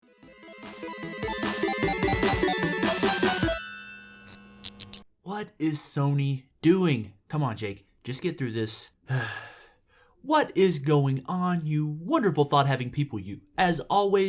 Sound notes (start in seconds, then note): 9.0 sigh